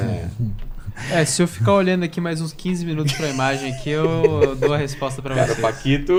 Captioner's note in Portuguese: risadas